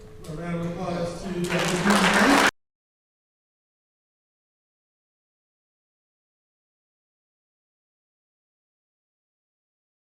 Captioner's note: audience applause